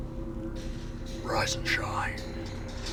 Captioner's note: whispers